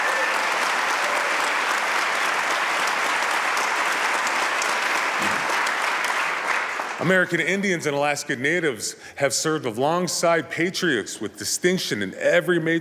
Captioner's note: applause